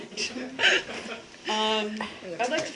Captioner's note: laughter